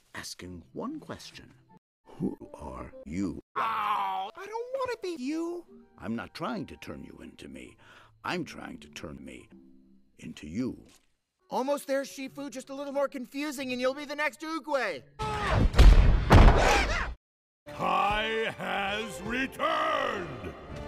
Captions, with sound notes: asking one question. Who are you? - (groan) I don't wanna be you! - I'm not trying to turn you into me. I'm trying to turn me... into you. - Almost there, Shifu! Just a little more confusing, and you'll be the next Oogway! YAAAAHAAA! - Kai has returned!